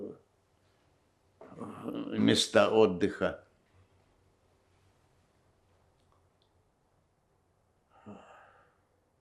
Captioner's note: sighing